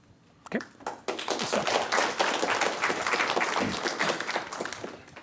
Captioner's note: applause